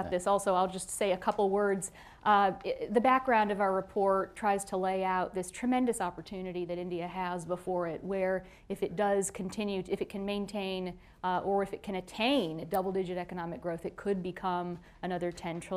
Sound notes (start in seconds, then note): none